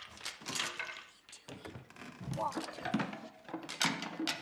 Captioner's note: whispers